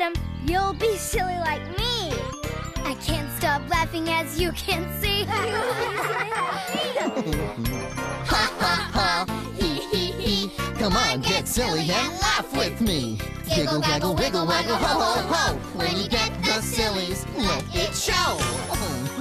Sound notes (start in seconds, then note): 5.2 laughing